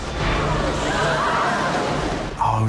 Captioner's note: students gasping